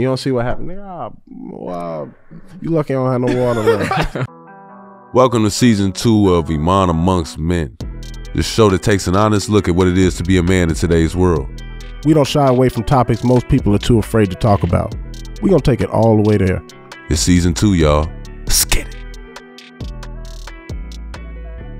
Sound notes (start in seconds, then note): 3.2 upbeat music; 3.2 laughing; 19.0 upbeat music